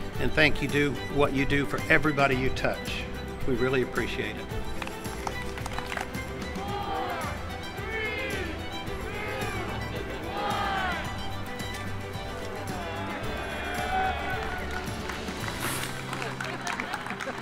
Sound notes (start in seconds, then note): 4.6 crowd clapping; 5.2 crowd; 11.2 soaring music; 14.6 crowd clapping